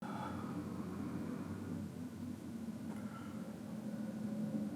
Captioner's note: breathing heavily